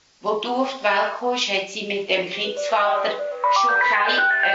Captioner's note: phone rings